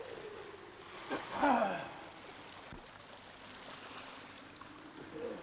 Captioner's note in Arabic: أنين غروت